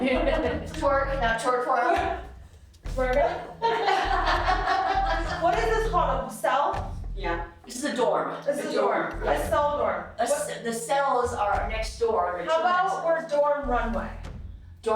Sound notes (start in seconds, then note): 3.3 laughing